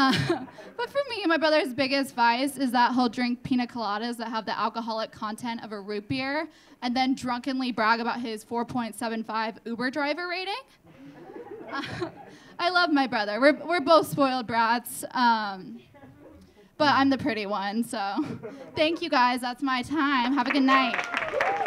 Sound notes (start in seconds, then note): 10.9 audience laughing; 20.4 audience clapping; 20.8 audience cheering